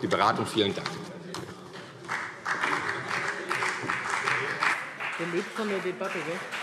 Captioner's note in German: Beifall CDU